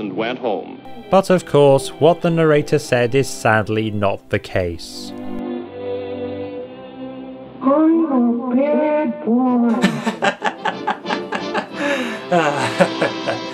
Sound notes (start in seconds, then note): 7.4 voice echoing; 9.7 laughing